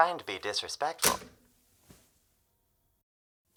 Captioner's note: click